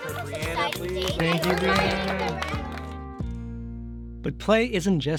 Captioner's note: everyone clapping